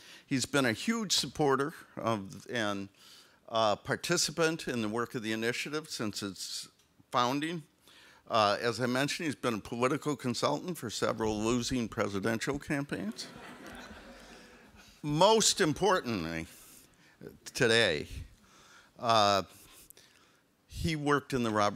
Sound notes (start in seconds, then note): 13.1 audience laughs